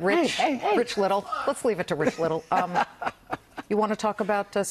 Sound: laughter

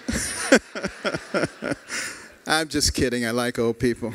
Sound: laughter

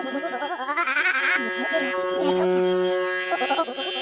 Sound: whirs

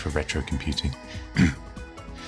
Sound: clears throat

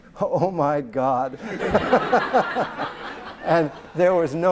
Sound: laughter

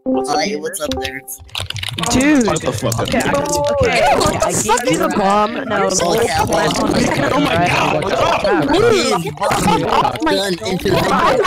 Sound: A bunch of clickity clack clacks

